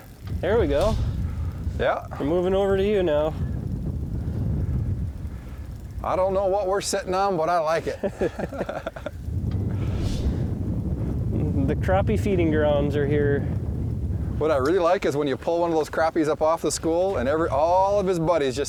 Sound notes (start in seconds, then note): 8.0 both laughing; 9.5 wind blowing